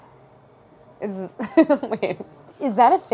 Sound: laughing

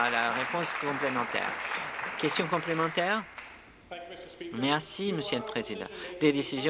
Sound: applause

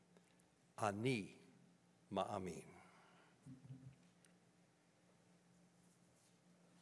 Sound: speaking in foreign language

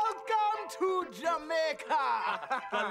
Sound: feigning Jamaican accent

